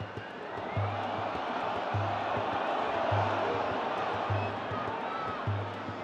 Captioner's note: crowd groaning